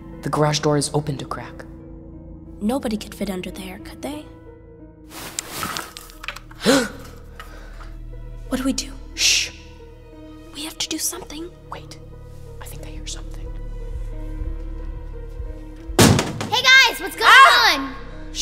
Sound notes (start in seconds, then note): 5.1 shuffling; 6.6 gasps loudly; 15.9 door slams; 16.7 shouting